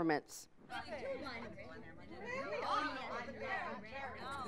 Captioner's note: students chattering